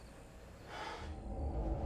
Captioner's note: crickets chirping; Tyler exhales; tense music